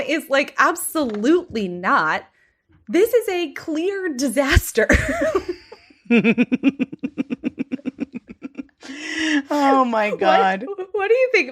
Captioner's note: laughs